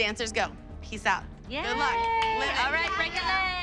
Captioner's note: cheering